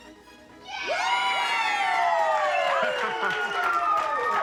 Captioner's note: cheering